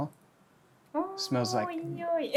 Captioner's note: laughs